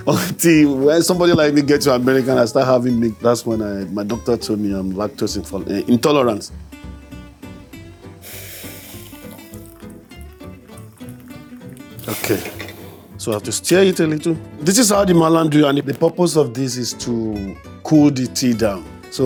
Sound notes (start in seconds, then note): 6.8 bright whimsical music; 8.6 steam hisses